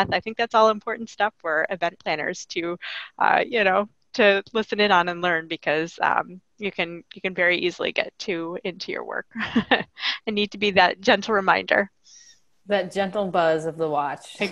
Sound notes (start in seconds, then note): 9.3 laughing